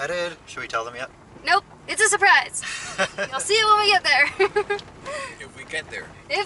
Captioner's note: laughter